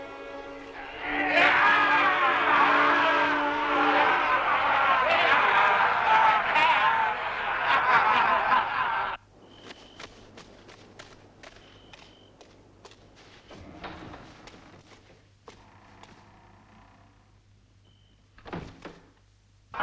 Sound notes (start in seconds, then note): 0.6 chieftains cheering; 9.3 crickets chirping